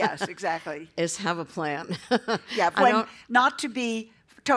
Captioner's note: laughter